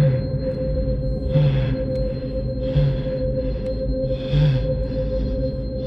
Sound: deep breathing

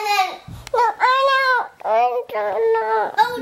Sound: mumbles

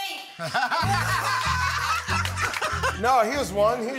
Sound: laughter

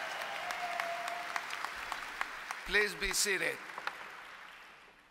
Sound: applause

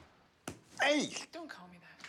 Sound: slap

